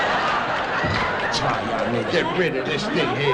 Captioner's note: audience Laughing